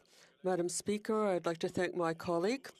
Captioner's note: speaking French